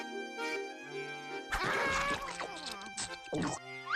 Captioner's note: munching; gulping